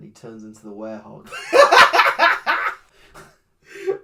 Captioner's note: cackles